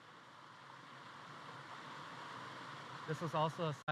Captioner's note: water rushing